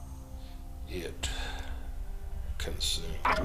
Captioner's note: sighing